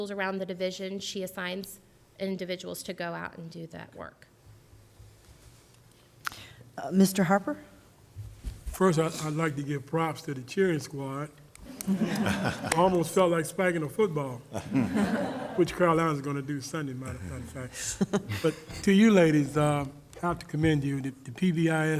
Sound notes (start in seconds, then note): 11.6 laughter